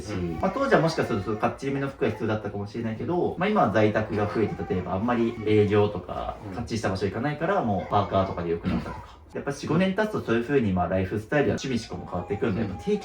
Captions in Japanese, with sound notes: [咳払い] 45 年経つとそういう風に、ま、ライフスタイルは守備しこも変わってくんで定期的に物減すってのがですね。じゃ、これは手放します。はい。